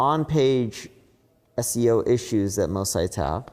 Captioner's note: none